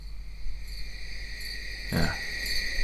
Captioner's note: crickets chirping